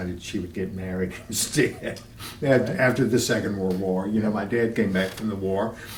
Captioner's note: laughter